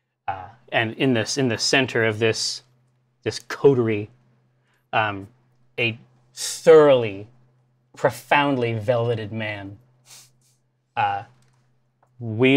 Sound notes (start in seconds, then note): none